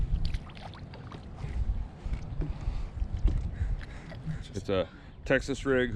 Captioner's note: fish splashing